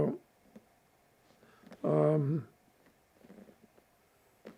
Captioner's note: pauses 6 seconds